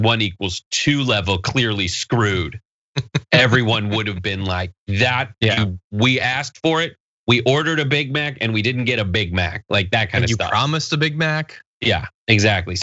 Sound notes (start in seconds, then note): 3.0 laugh